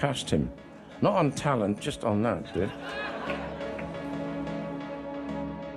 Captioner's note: audience laughing; suspenseful music